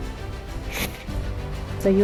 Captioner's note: sniffs